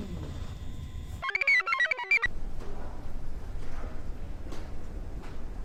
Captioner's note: computer chirps